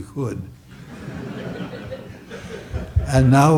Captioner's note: audience chuckles